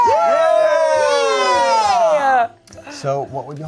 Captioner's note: everyone cheering